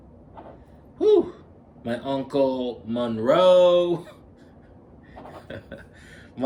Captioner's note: laughs